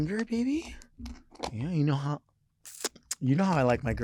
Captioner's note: lips smacking